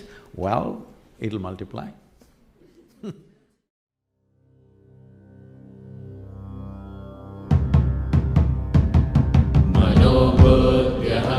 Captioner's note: laughter